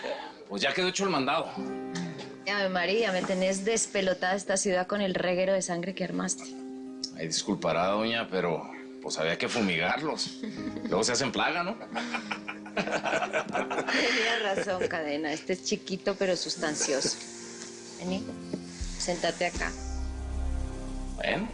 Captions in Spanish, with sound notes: - BUENO, PUES, YA QUEDO HECHO EL MANDADO. - !AVE MARIA! ME TENES D--- ESTA CIUDAD CON EL REGUERO DE SANGRE QUE ARMASTE. - !AY! DISCULPARA, DOÑA, PERO, POS, HABIA QUE FUMIGARLOS. LUEGO SE HACEN PLAGA, ¿NO? [Risas] - TENIAS RAZON, CADENA. ESTE ES CHIQUITO; PERO SUSTANCIOSO. VENI. SENTATE ACA.